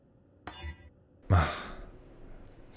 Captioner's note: sigh